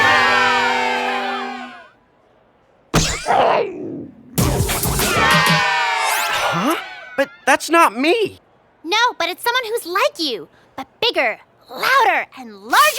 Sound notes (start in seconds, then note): 3.2 growls; 4.9 cheers